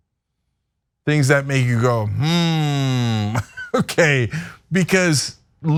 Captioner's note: laugh